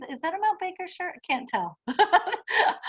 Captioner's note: laughs